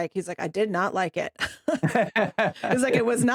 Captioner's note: both Laughing